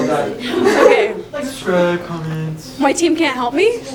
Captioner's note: laughter; funny voice